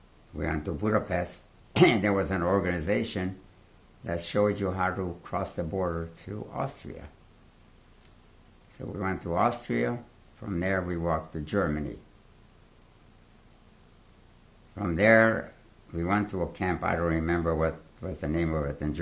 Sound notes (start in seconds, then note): 11.7 pauses for 3 seconds